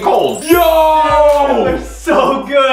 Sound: magic chimes

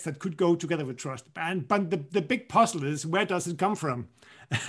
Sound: laughter

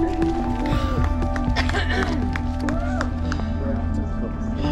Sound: giggles; people cheering and clapping; people chattering

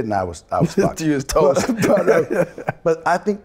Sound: laughs

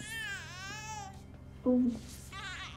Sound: baby crying

